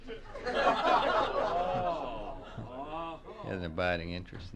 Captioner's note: press pool laughs